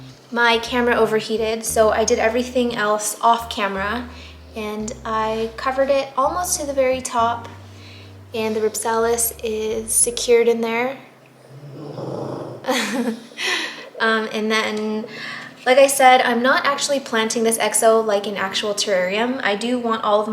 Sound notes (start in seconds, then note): 11.4 Pudge snorts; 12.2 laughs